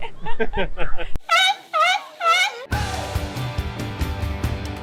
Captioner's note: seal bleating; upbeat music